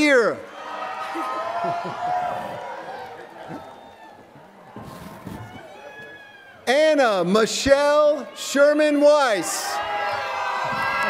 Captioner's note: laughter